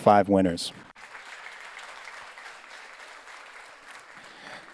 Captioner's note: audience applauds